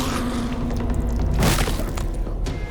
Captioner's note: body thuds